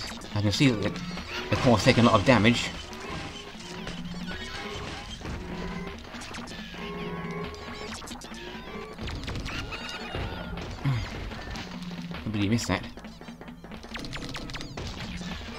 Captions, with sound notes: I can see that the Core's taken a lot of damage... *groan* Completely missed that!